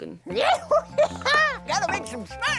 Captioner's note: laughing